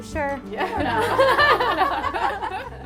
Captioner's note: all laugh